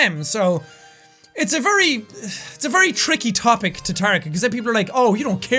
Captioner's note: sighs